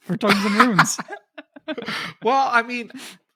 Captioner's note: laughing